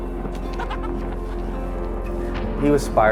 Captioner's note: man laughs